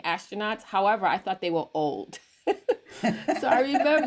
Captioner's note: chuckles; everyone chuckles